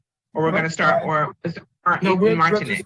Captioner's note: distorted audio